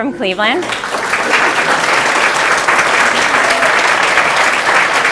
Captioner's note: applause